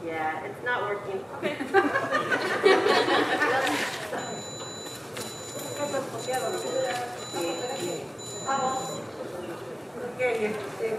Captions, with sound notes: - Yeah, it's not working. - Okay. (audience laughing) (speaking in foreign language)